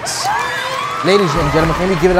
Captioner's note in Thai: กรี๊ดดด